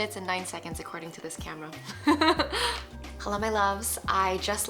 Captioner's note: laughs happily